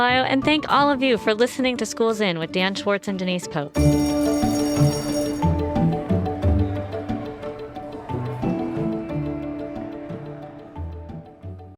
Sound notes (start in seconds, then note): 3.5 gentle upbeat music; 3.7 bell ringing